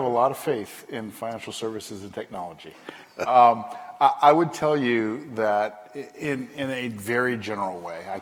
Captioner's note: laughter